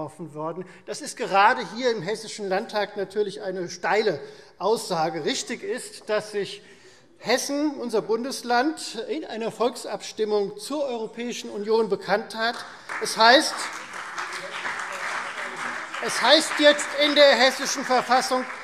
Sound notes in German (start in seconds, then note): 12.4 Beifall Freie Demokraten, CDU und BÜNDNIS 90/DIE GRÜNEN